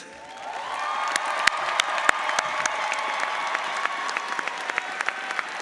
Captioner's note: audience applauds